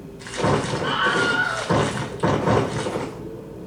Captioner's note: stomping